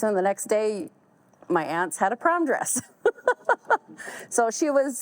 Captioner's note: laughs